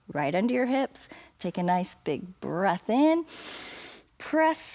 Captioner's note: inhales